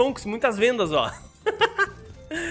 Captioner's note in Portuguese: risos